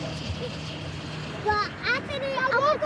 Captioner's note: children chattering